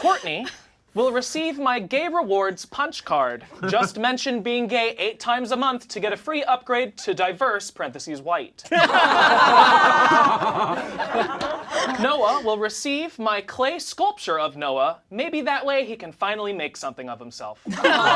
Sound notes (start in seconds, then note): 8.7 all laugh